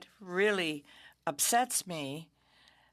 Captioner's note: speaking French